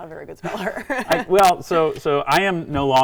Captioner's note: giggling